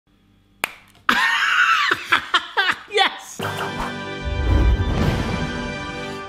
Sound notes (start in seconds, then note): 1.1 laughing; 3.4 exciting music